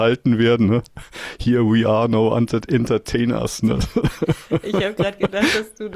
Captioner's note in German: gelächter